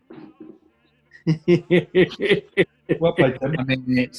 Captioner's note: chuckling